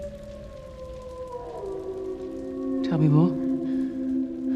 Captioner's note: wolves howling